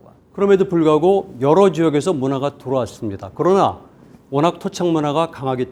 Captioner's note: speaking in Korean